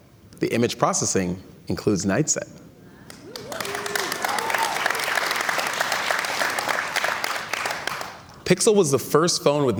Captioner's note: cheers and Applause